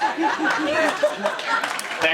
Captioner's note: audience laughing